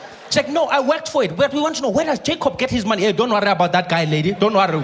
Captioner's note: none